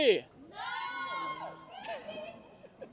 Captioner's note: cheers and applause